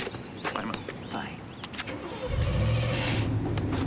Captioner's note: engine turns over